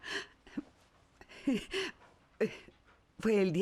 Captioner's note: laughs